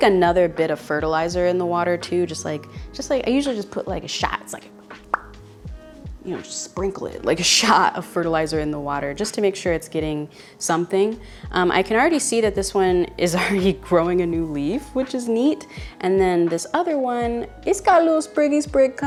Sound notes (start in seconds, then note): 4.9 pop